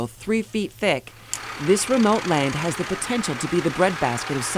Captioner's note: rooster crows